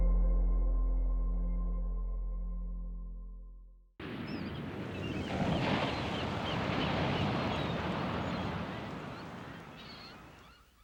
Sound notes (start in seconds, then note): 4.0 waves crashing; 4.0 birds chirping